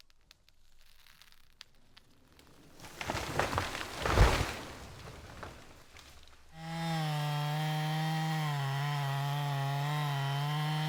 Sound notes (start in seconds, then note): 6.5 chainsaw buzzing